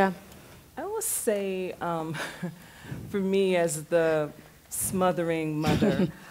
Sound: small laugh; some laughter

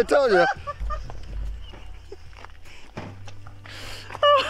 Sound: laughs

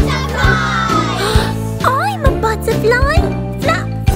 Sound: gasps

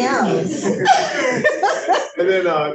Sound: laughs

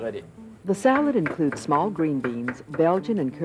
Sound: voiceover

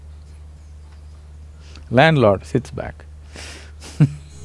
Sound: laughs

